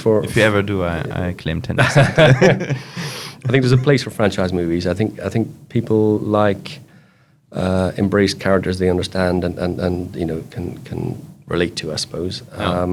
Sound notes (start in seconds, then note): 1.8 both laughing